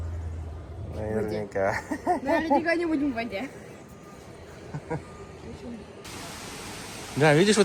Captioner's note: laughs